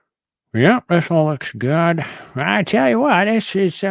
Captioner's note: prospector accent